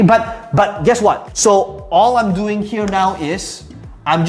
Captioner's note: tapping marker